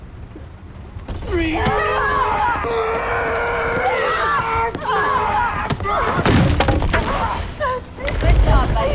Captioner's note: all grunting